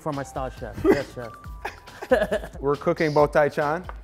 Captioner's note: both laughing